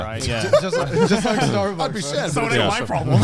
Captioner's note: men laugh